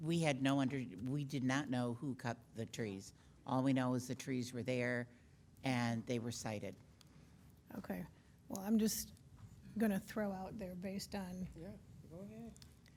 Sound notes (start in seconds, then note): none